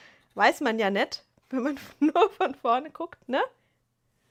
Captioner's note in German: gelächter